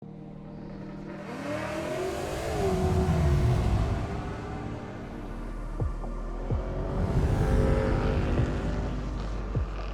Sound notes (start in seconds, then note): 0.2 car engine roaring; 1.2 mid tempo dramatic music